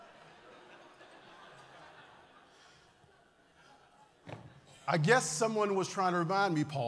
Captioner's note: laughter